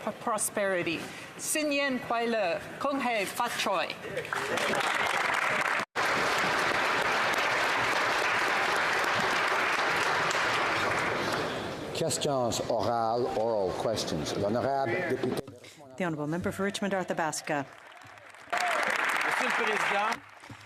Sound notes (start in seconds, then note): 5.6 speaking alternate language; 9.9 applause; 17.4 speaking French